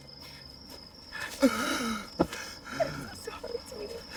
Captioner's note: groans